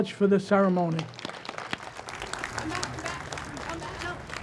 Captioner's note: audience applauds